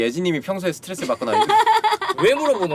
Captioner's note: laughter